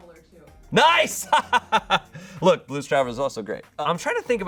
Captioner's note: laughs